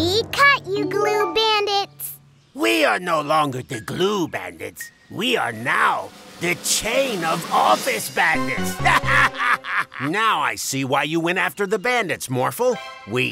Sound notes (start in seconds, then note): 8.8 laughing